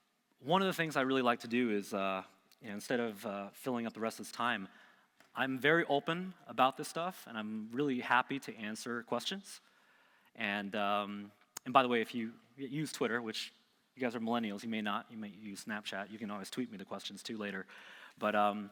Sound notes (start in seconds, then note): none